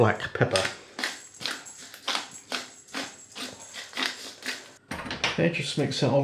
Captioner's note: grind, grind, grind